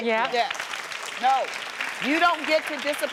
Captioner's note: crowd applauds